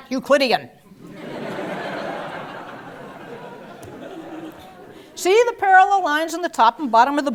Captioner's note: laugh